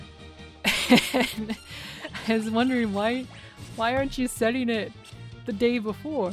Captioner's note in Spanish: riendo